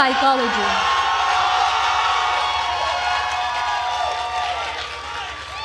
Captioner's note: attendees cheering and applauding